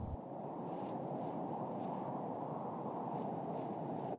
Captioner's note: wind blows